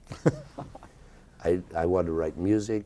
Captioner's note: interviewer laughing